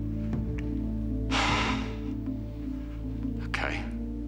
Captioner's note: exhales deeply